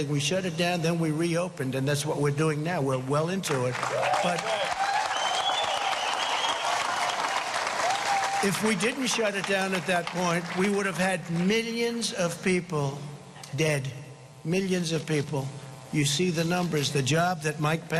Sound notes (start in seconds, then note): 6.8 cheering and applause